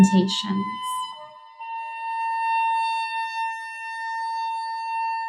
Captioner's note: high-pitched whistling